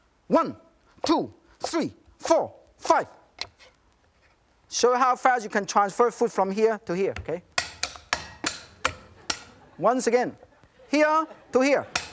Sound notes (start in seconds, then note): 7.5 knife clattering